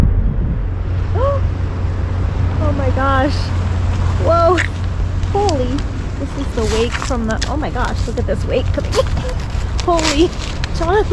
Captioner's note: gasp